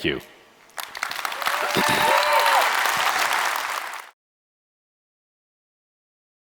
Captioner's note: audience cheering and applauding